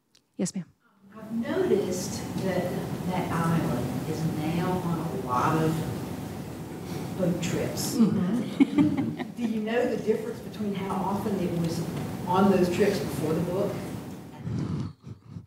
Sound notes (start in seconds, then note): 8.0 laughter